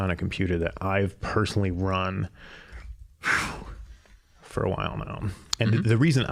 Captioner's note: exhaling